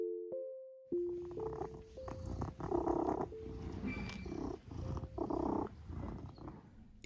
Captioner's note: purring